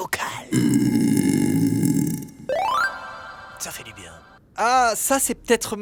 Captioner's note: buuuuuuuurp